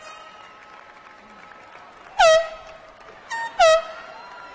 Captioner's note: air horn